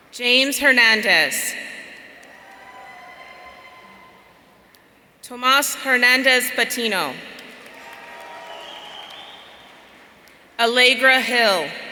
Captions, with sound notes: James Hernandez. Tomas Hernandez Patino. (audience cheering) Allegra Hill.